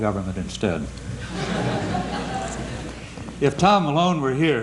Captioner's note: laughter